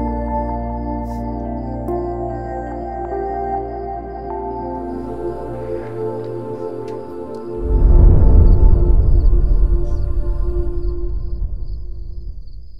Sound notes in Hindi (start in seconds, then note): none